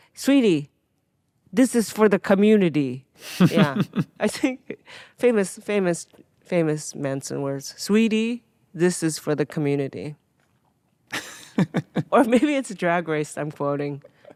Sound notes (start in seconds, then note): 11.1 laughing